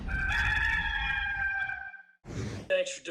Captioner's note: rooster crowing